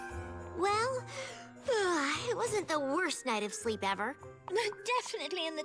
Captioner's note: yawns